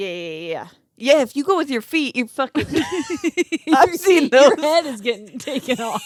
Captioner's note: laughing